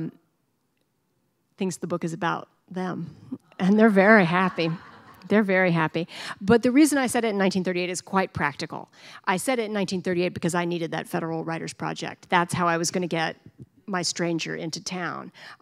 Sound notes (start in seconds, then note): 4.1 laughter